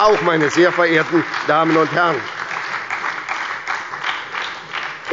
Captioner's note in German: Beifall bei der SPD und der LINKEN